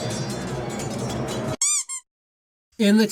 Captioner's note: toy squeak sound effect